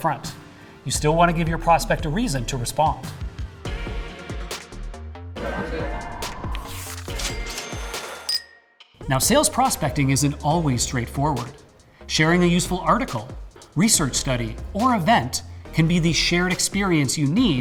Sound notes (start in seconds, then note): 3.2 upbeat music; 7.1 register dinging